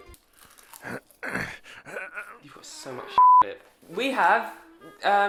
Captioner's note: groan and bleep